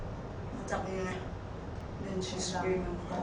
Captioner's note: speaks in foreign language